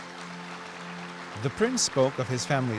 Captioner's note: applause